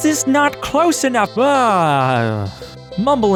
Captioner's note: sigh of relief